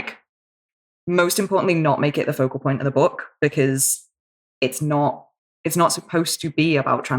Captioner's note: none